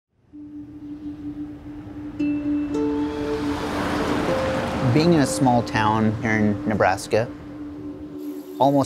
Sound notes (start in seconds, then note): 0.4 birds chirping; 2.2 peaceful acoustic music